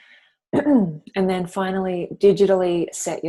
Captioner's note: clears throat